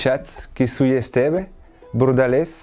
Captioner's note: speaking "occitan"